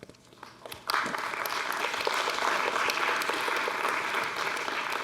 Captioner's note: audience applauds